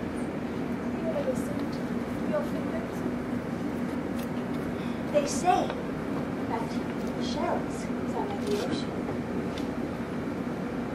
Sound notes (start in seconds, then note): none